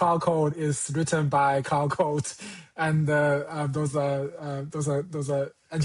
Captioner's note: chuckles